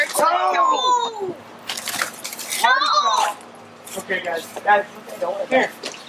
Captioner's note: sound of wheelbarrow tipping